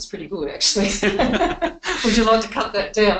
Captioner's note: both laughing